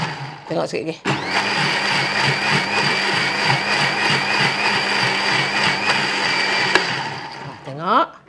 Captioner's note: sound of blender